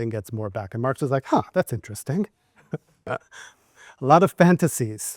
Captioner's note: laughs